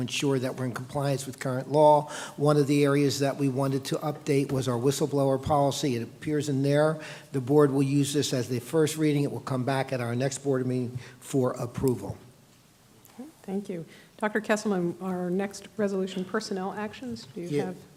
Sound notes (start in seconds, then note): none